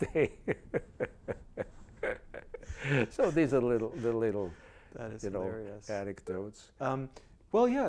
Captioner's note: laughs